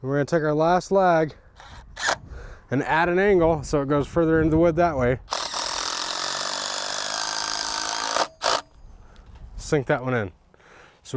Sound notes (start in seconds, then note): 5.3 drill roaring